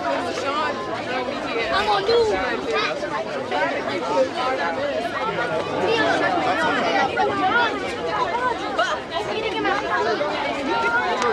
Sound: background conversation

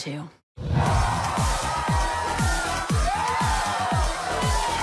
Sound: crowd cheers; dance music plays

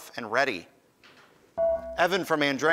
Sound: ding

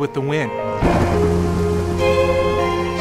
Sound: thunder

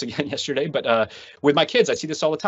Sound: laughs

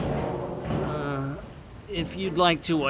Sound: groans

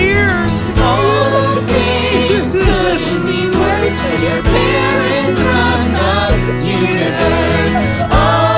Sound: cries

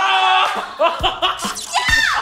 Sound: laughing

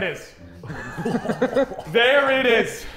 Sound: Sidemen laughing

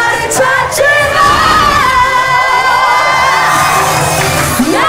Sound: screeech

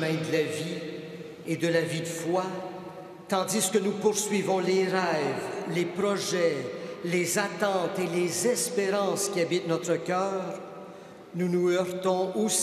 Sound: speaking Alternate Language; speaking French

